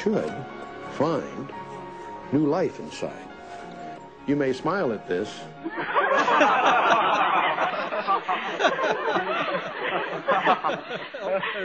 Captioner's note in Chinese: 笑聲